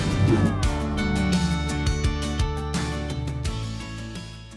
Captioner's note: graphic whooshing; graphic whooshes